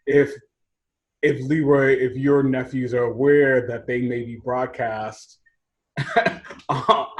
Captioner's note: laughs